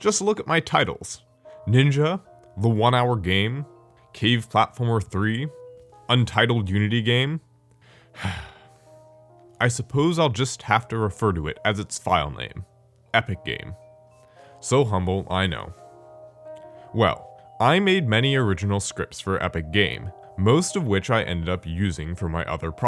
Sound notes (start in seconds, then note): 8.1 sigh